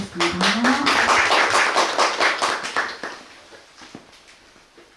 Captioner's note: applause